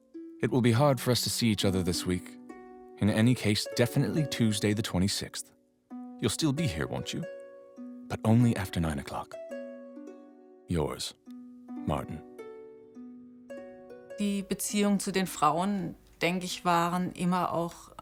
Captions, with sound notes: It will be hard for us to see each other this week. In any case, definitely Tuesday the 26th. You'll still be here, won't you? But only after nine o'clock. Yours, Martin. [in German]